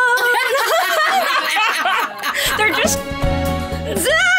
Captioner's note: laughing